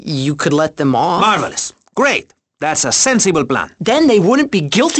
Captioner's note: sarcastically